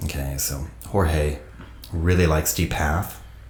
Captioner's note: none